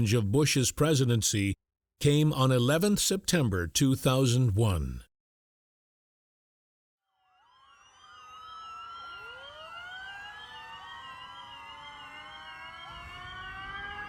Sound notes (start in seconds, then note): 7.3 sirens blaring